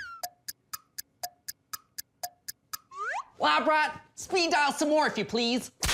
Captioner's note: clock ticking